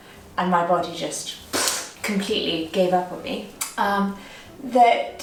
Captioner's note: exhaling